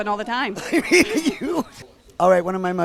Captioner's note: laughs